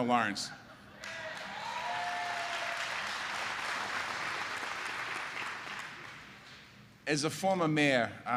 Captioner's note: applause